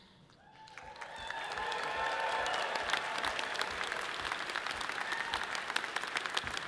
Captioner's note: audience clapping and cheering loudly